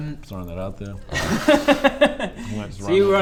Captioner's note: laughs